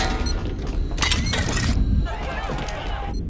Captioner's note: beeping